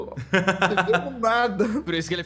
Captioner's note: laughs